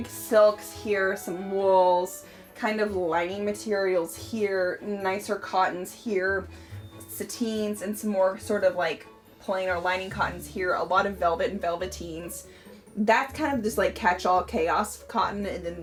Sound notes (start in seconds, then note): none